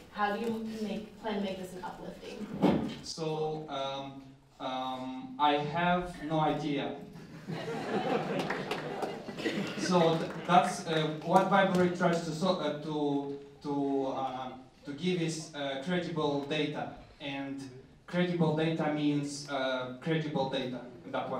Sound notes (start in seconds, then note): 7.1 laughter